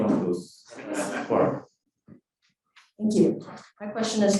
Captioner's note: cored laughing